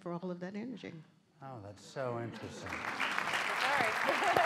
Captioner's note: applause